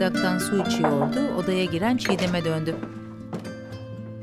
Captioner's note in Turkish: Kapı açılma sesi; Kapı vurma sesi